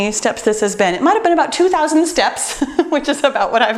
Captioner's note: laughs